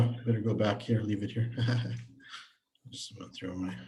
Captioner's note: laughs